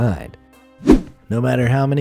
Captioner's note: air whooshing